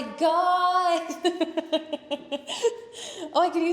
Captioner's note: laughing